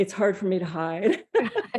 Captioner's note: laugh